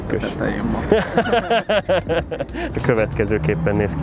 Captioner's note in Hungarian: nevetés